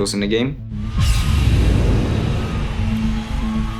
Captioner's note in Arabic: انفجار مدفع هوائي; تشجيع الجمهور